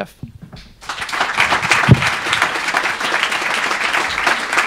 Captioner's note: audience clapping